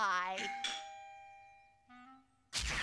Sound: doorbell rings

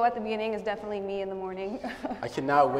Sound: laughter

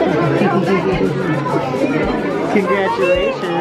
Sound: crowd chatters

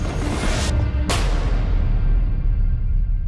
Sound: gunshot

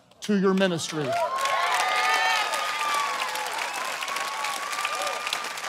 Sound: congregation cheering

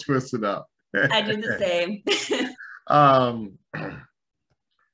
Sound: laughs; laughs saying

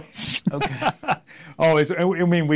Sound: laughs

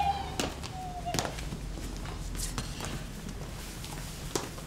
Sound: shoes clacking

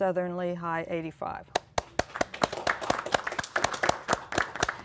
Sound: applause

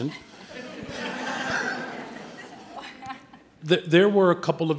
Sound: audience laughing

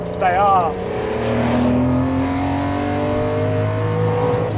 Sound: car engine roaring

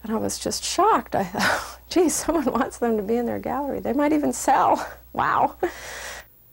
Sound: laugh

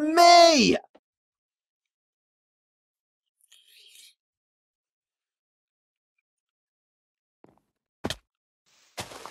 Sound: silence

